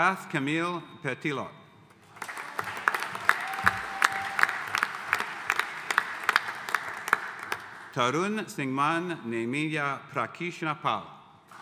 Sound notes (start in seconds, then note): 2.0 audience applauding